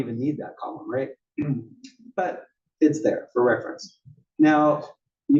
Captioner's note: cough